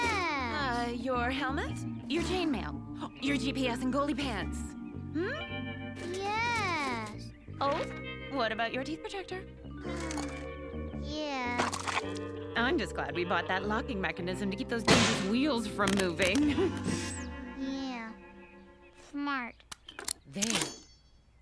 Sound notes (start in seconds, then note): 19.6 locks click